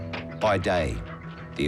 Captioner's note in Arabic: ضربات الأقدام